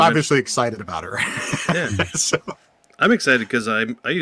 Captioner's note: laughs